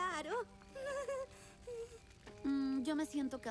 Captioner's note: weak laugh